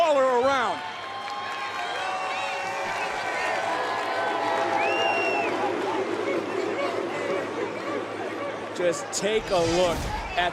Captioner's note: crowd barks